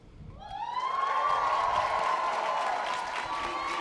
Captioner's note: graduates cheer